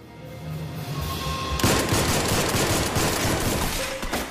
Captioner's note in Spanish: Disparos